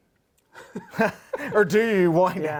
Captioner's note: laughter